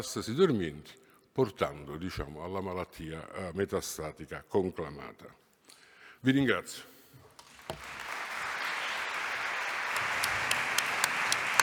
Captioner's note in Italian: Applauso